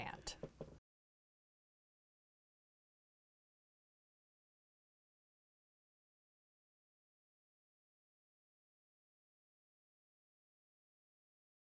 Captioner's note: no Sound Present